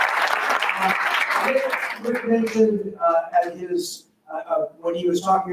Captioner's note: faintly speaking